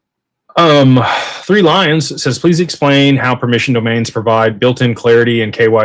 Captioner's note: sighs